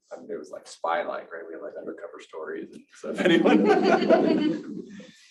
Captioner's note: audience & panel members laugh